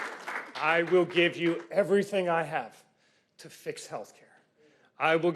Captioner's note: cheers and Applause